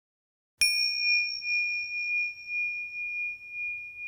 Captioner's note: bell dinging